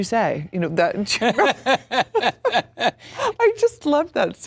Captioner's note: Sam laughs